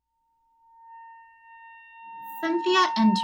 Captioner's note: high-pitched whistling